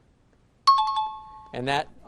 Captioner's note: chiming